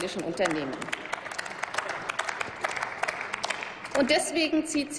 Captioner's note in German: Applaus